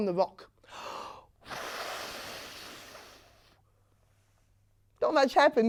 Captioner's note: air blowing sounds can be heard